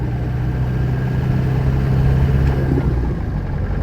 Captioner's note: sounds if traffic